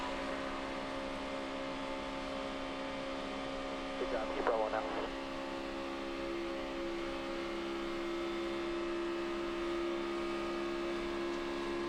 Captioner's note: engines hum